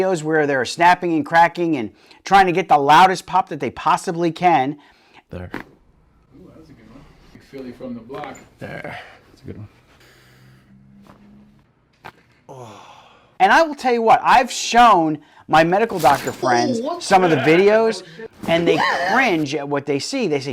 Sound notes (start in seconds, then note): 5.4 neck crunching; 8.4 neck crunching; 11.9 neck crunching; 12.4 patient sighing